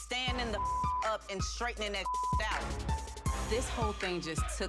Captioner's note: beep